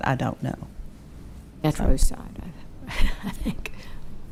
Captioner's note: chuckling